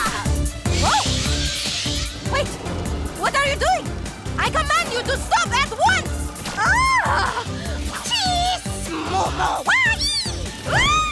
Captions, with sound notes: Wait! What are you doing? I command you to stop at once! [SCREAMS] [JABBERING] We did it!